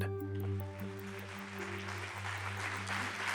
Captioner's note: applause